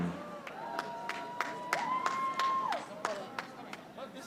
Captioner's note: audience applauding